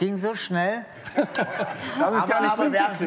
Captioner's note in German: Lachen